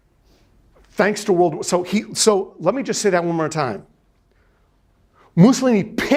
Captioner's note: none